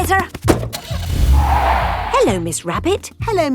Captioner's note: car starting; tires screeching